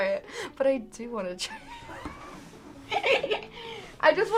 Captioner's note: laughs